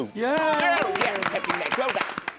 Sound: applause!

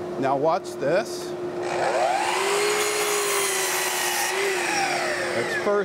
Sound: miter saw whirring

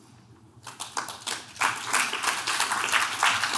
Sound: clapping

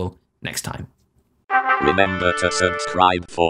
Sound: trumpet fanfare; electronic voice

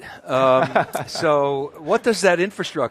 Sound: laughs

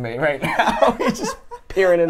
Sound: laughs

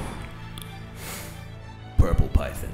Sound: exhales lightly; sniff

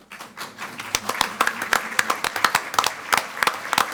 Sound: all applaud

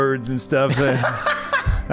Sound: laughs

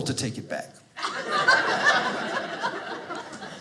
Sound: audience laughing

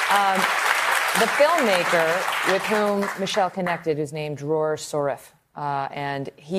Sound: applause

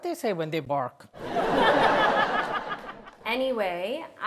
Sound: audience laughs

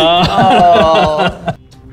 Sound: laughing

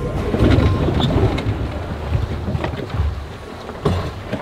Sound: winch grinds

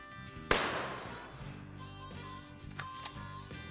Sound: gunshot

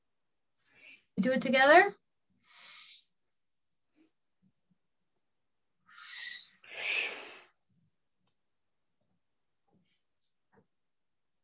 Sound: inhaling and exhaling

